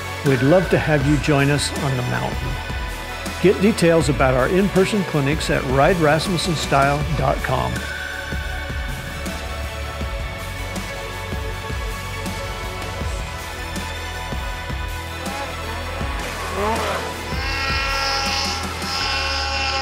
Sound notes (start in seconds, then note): 8.2 upbeat music; 15.0 snowmobile engine revving